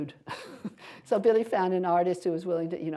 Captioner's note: laughter